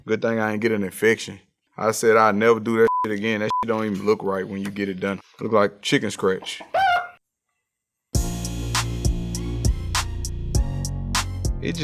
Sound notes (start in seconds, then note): 2.8 beep; 6.2 chicken clucks; 8.2 intense music